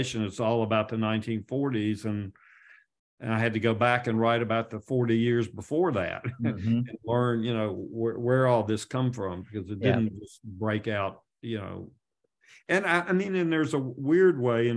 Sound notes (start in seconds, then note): 6.2 chuckles